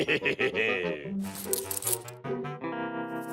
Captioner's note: laughs; keys jingle